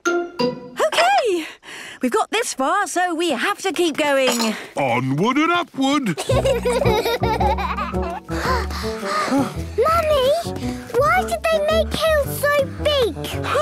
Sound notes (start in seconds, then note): 6.1 children giggling; 8.0 panting